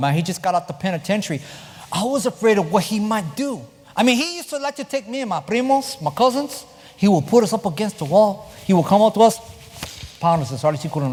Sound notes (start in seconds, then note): 5.8 spanish